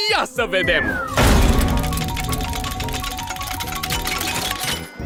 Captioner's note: wheel dinging